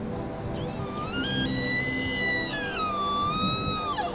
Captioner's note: elk bugles